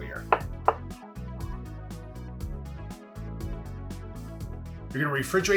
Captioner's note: cheerful music; knife tapping